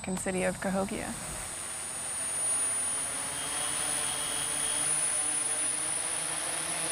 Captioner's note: drone whirring